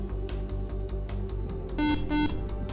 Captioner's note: beep